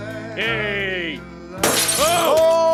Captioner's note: glass breaking